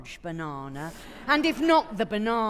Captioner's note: audience laughing